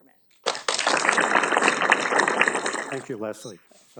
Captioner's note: audience applauding